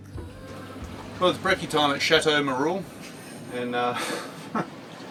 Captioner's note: laughs